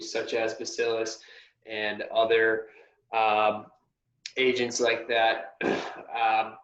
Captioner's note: clears throat